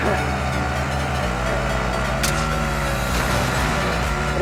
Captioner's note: ATV driving